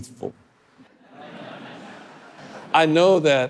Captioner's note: audience laughing